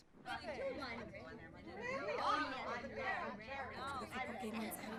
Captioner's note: students chattering